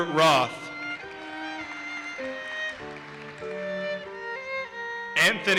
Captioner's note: audience applauses